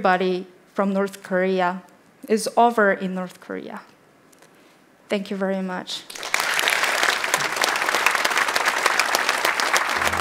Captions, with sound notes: from North Korea is over in North Korea. Thank you very much. (applauding)